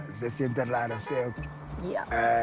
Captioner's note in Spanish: Claxon